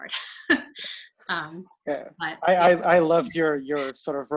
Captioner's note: chuckling